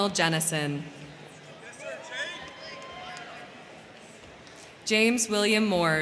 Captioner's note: crowd cheering; crowd clapping